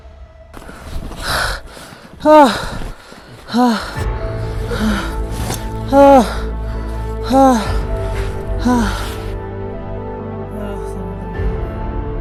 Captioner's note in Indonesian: Suara napas terengah-engah